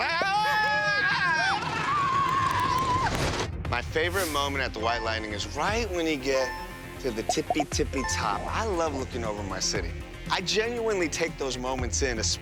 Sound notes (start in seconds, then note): 0.2 both screaming